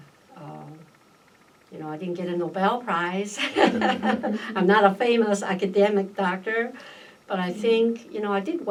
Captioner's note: all laugh